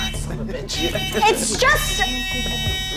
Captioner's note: hooter buzzing